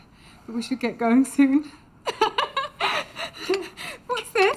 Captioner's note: laughs